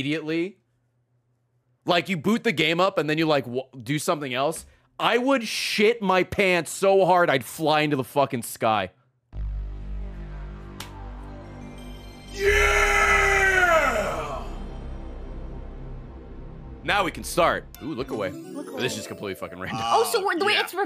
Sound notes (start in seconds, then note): 9.3 PS1 startup noise